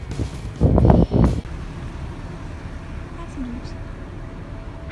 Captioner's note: wind blows